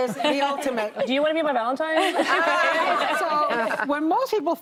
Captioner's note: laughter